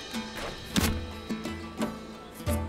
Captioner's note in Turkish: Ok fırlatma sesi